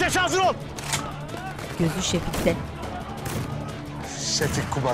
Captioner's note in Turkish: Silah sesleri